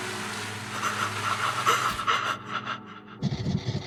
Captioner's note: the Duchess pants